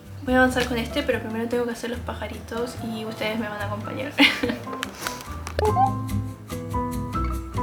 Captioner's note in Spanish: risas